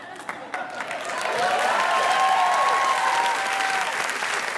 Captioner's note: audience applauding